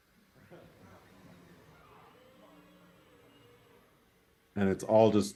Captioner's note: robotic whirring